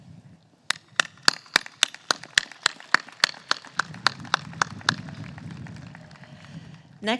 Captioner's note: applause